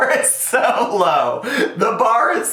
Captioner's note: laughs